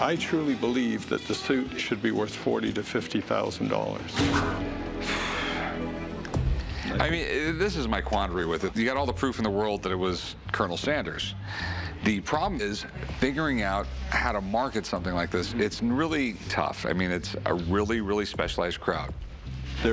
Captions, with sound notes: I truly believe that the suit should be worth $40,000 to $50,000. [heavy sigh] I mean, this is my quandary with it. You got all the proof in the world that it was Colonel Sanders'. The problem is figuring out how to market something like this. It's really tough. I mean, it's a really, really specialized crowd.